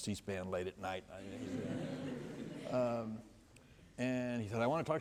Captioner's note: laughter